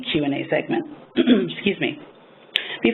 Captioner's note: clears throat